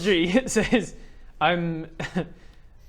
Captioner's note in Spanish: risa